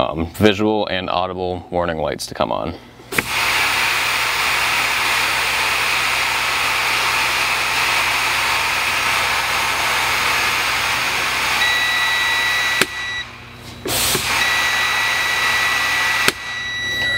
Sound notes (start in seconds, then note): 4.6 air blowing; 11.6 beeping